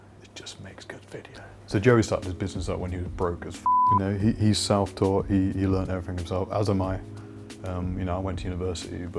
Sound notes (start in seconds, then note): 3.6 beep